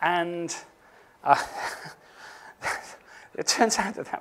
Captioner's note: laughs